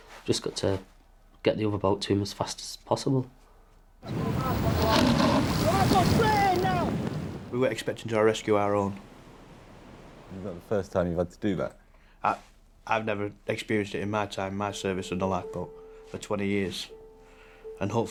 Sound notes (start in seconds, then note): 4.0 water whooshing; 4.0 water drowns out speaker